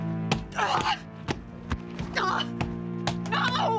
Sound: Alex groaning

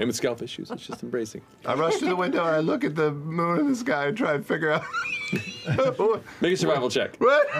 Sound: wheezes; the cast laughs

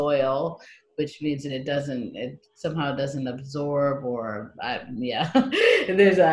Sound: laughs

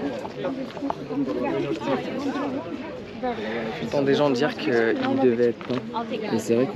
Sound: speaking in foreign language

